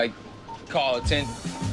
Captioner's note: radio beeping